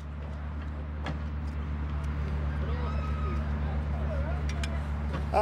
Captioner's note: archeologists chattering